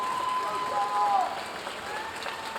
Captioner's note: audience applauding